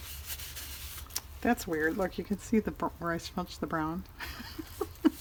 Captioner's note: laughs